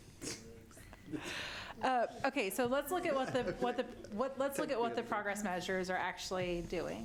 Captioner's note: laughter